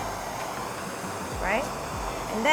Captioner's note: hissing